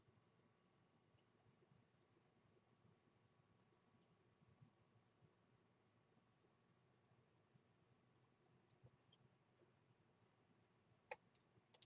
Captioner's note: humming